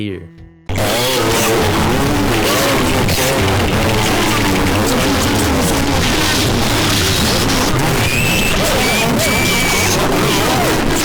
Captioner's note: audible chaos